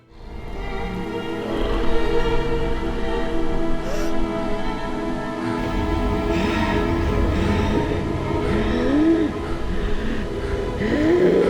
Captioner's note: snoring